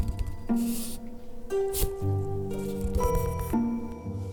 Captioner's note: more scrabbling